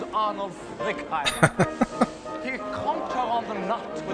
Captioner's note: laughing